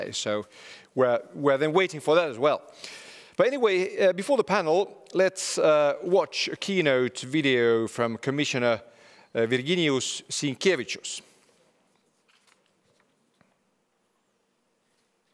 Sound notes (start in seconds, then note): none